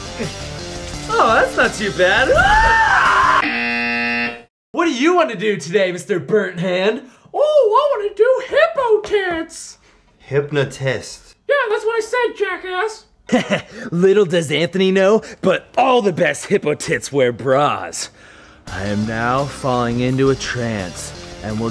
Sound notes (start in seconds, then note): 2.2 suddenly screams in pain; 3.4 buzzer goes off; 7.0 assumes high pitched voice; 11.5 in high voice; 13.3 snickers